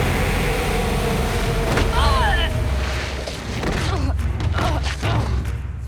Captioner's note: groaning